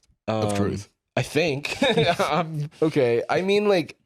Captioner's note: laughs